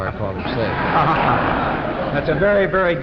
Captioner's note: audience laughing